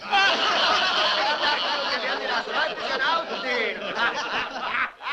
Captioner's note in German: lautes Gelächter